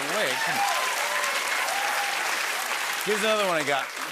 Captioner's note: cheers and applause